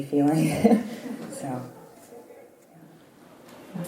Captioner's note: laugh